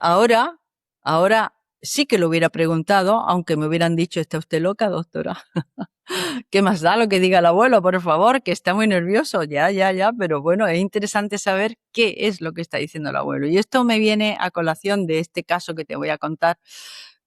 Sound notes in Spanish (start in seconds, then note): 5.4 risas